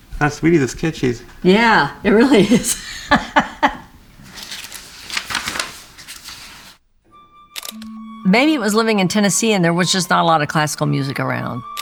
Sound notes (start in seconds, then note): 1.4 laughing; 7.6 camera shutter clicking